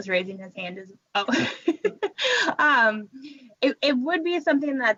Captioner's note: laughing